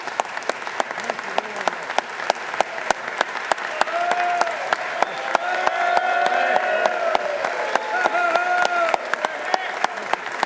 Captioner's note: applause